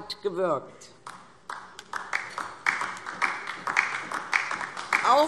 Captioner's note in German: Beifall DIE LINKE